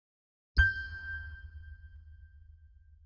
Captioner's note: ding